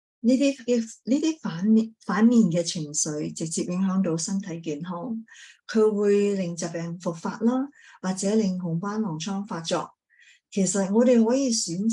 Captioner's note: speaking chinese